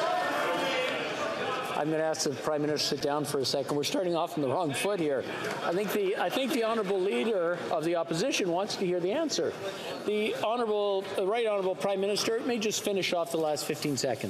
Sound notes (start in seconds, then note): 2.1 yelling